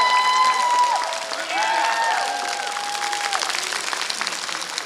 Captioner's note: applause